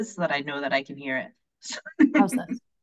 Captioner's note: laughing